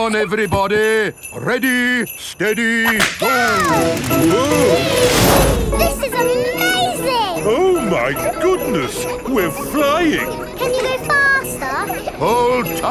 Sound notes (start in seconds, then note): 4.7 all exclaiming